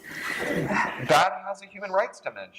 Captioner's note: laughter